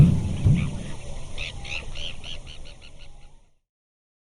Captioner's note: bird tweeting